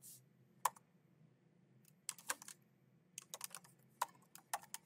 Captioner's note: keyboard clacking continues